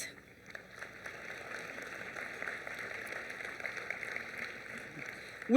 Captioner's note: applause